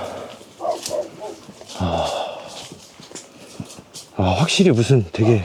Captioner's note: barking